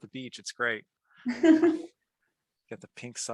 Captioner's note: laughs